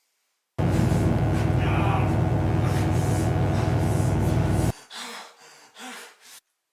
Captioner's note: electric buzzing; Phil groans